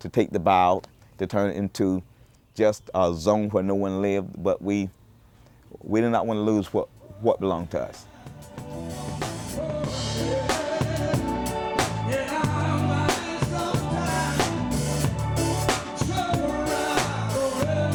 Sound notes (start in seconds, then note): 7.0 man vocalizing; 8.2 gentle music